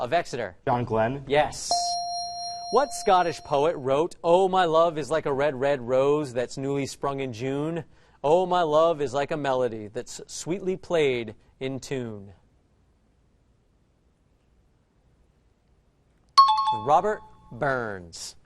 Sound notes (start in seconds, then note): 1.7 correct answer chime; 16.4 out of time alarm